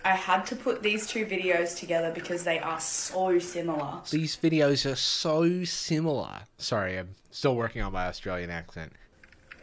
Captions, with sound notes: I had to put these two videos together because they are so similar. - (Speaking in Australian accent) These videos are so similar. Sorry, I'm still working on my Australian accent.